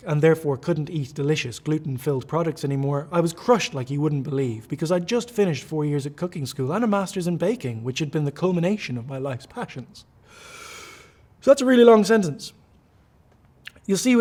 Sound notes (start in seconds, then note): 10.2 inhales deeply